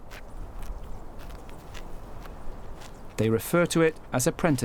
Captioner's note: kangaroo rat munches